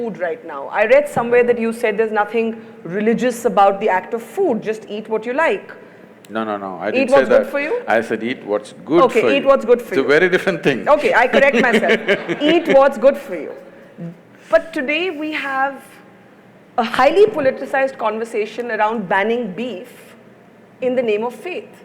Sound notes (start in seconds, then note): 11.0 laughs; 11.0 Sadhguru laughs